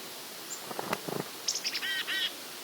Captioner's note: birds